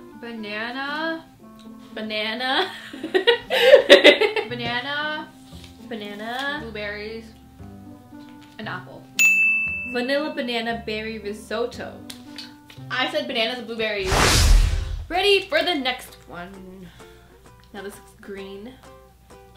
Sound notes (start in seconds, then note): 2.9 laughs; 9.2 ding